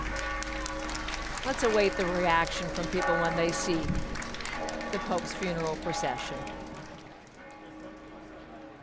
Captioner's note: applause